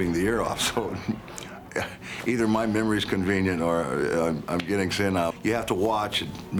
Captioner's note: laugh